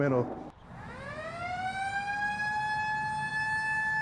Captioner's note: siren blaring